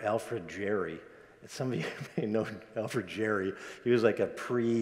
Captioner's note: laughs